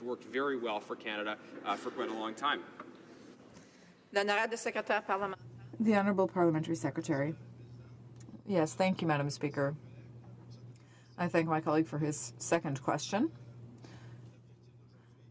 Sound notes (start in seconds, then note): 8.9 speaking French